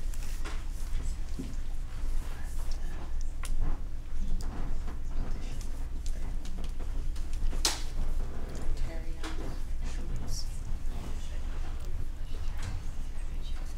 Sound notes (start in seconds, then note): 1.2 whispering